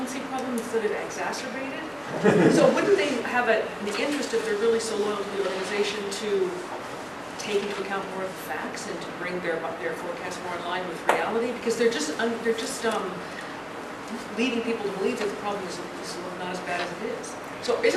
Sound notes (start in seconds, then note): 2.1 laugh